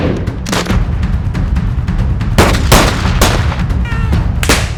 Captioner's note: guns firing